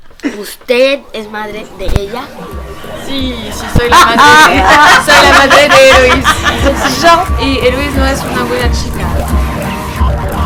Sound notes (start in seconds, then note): 3.5 laughs